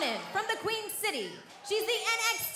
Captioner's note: cheers & applause